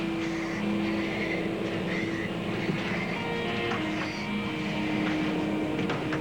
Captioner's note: halètements